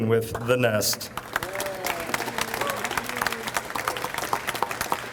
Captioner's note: audience applauds